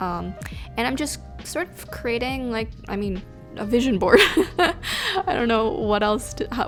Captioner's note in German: lacht